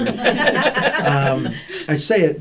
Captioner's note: laughter